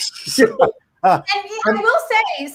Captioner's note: panelists laugh